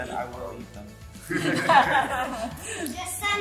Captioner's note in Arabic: كلهم يضحكون